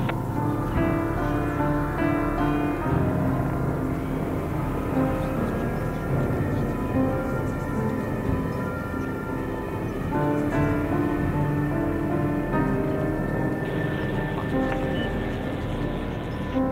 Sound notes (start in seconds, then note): 2.5 helicopters; 5.5 piano music continues